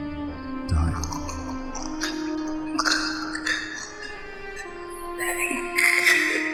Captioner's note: gurgling and wheezing